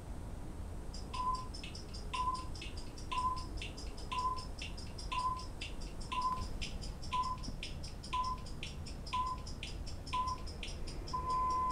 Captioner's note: countdown beeps